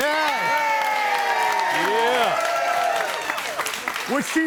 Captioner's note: audience cheers